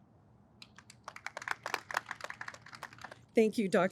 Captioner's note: audience applauds